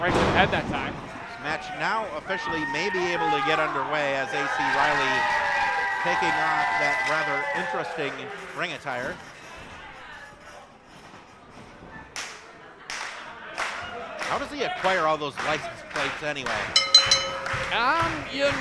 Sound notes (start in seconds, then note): 12.8 clapping; 16.7 bell dinging